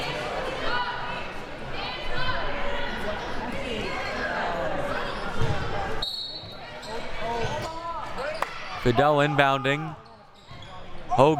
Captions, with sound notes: (whistle blowing) Fidele inbounding, Hogan.